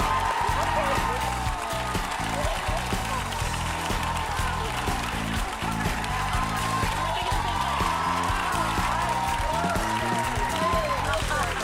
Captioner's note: applause